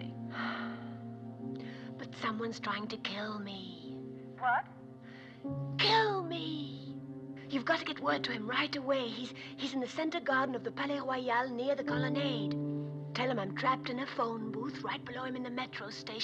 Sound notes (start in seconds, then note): 0.3 sighs; 4.7 whispering Louder